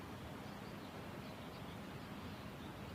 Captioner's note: birds chirping